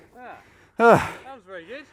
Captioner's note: sighs